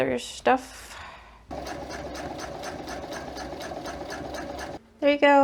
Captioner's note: sewing machine noises